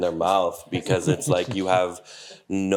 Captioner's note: chuckling